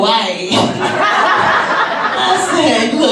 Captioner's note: audience laughs